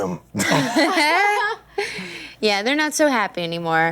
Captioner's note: laughter